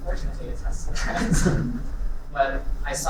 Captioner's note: laughing